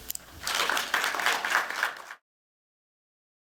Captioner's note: applause